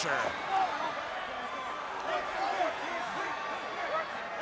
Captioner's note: crowd cheering